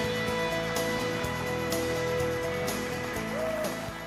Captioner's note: lively guitar music; audience applauds